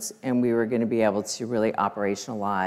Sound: none

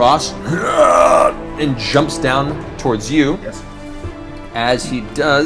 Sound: groans

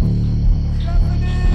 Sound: faint whispering, right; Mark, screaming, outside

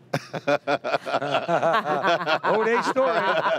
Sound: all laughing

